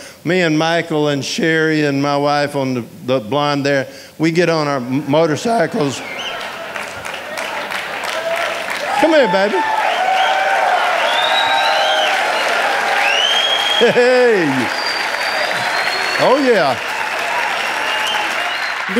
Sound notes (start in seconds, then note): 9.8 audience applauding and cheering